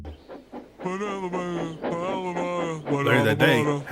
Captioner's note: Henry Humming to himself